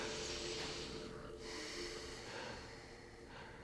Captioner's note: deep breathing